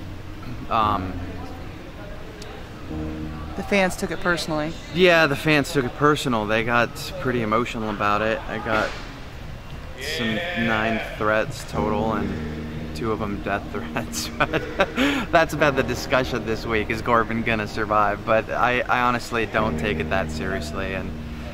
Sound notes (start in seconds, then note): 13.7 laughs